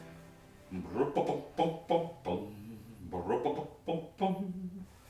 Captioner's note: humming Christmas music